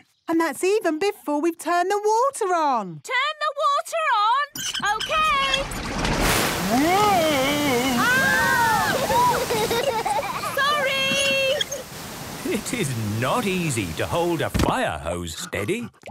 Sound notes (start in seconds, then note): 4.5 wheel squeaking; 6.6 children laughing